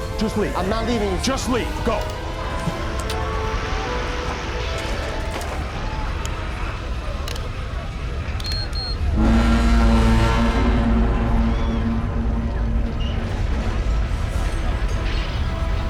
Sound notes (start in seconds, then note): 6.7 clicks; 10.5 hum